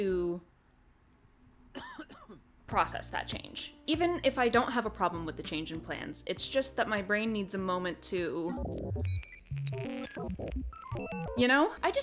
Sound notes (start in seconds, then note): 8.4 processing noises